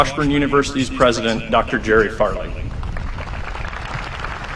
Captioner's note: applause